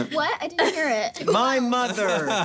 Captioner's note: laughing